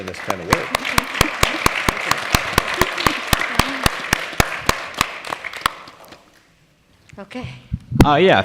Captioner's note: applause